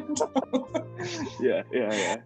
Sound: both laughing

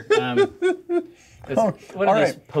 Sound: co-hosts laughing

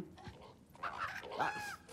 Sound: caw

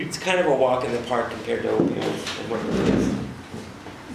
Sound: faintly speaking

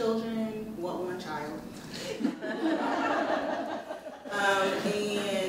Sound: audience laughs

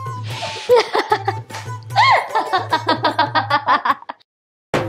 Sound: laughing

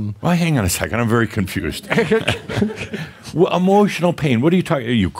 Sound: they chuckle

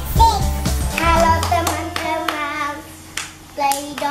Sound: claps

